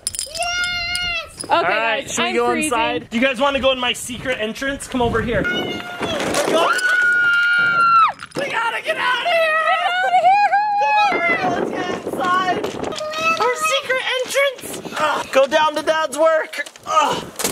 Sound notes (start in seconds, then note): 6.5 screams